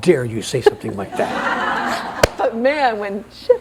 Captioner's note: laughter